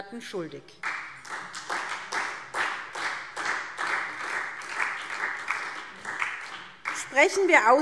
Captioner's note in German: Beifall SPD